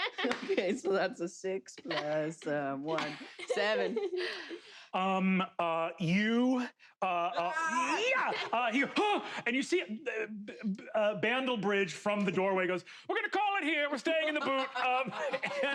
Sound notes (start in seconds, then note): 7.4 shouts